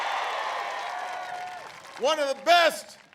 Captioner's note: applause